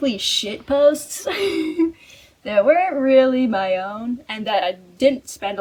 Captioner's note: laughs